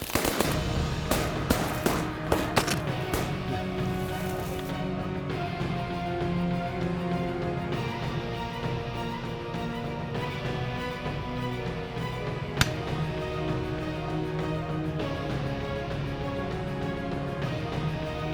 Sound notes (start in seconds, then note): 0.0 gun shots; 12.6 gun shot